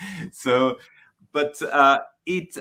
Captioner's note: laughing